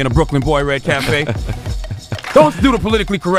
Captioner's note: chuckling